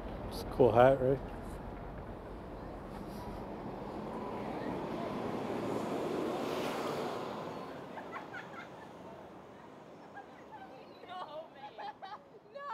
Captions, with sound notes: It's a cool hat, right? [city ambience]